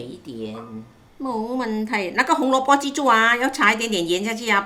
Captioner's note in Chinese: 廣東話